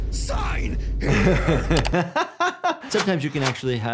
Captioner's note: laughs